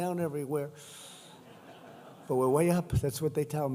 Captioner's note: laughter